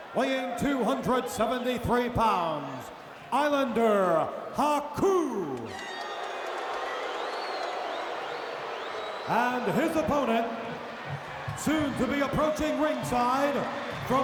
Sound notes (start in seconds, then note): 5.0 audience cheering